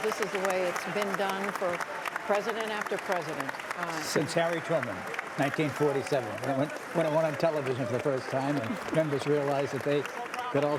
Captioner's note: cheers and applause